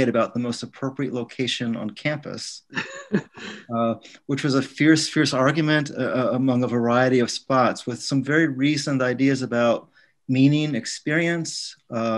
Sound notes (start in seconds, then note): 2.6 man laughs